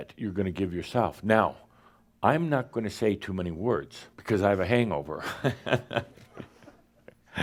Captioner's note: he laughs